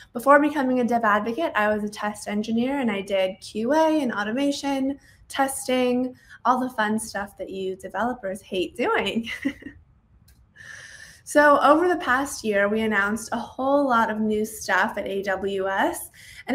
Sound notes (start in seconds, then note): 9.2 giggles